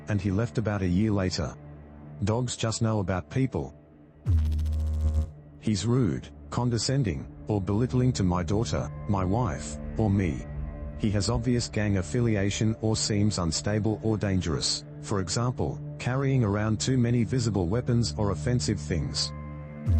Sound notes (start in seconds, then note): 4.2 electrical noise; 19.7 electrical noise